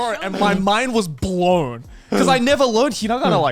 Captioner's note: laughs; hosts laugh